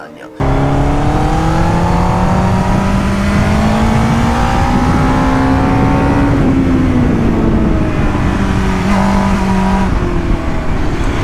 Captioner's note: engine roar